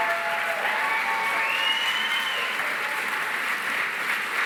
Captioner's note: cheering, applause